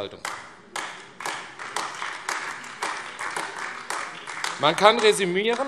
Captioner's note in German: Beifall AfD